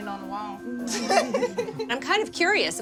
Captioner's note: laughs